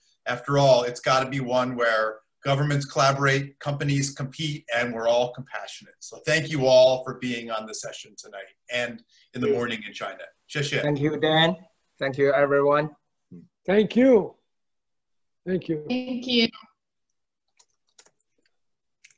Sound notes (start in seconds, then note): 9.7 speaks in foreign language